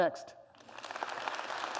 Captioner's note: applause